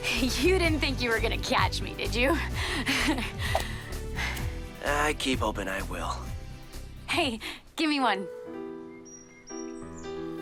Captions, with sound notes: [upbeat music] You didn't think you were going to catch me, did you? [Jessa breaths heavily] I keep hopping I will.